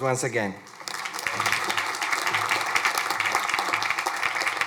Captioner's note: crowd applauding